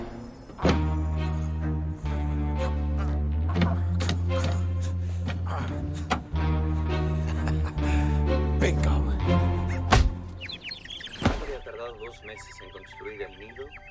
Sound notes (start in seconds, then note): 1.6 grunting; 5.8 clicks; 5.8 laughs; 9.5 birds chirping; 11.1 man speaking Spanish on TV